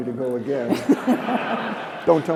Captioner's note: laughter